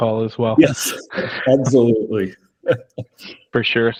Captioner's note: laughs